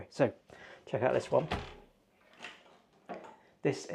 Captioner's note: door clunking